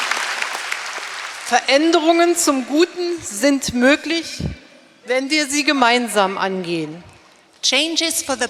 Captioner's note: speaking in German